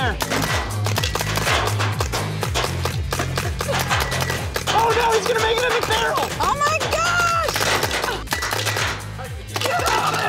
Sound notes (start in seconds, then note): 0.1 paint balls hitting